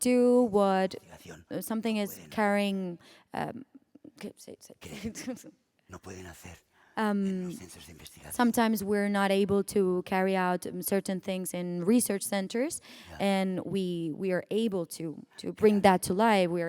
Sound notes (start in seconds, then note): 4.1 speaking spanish